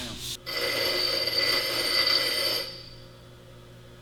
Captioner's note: grinder grinding